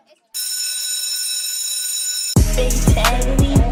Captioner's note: bell ringing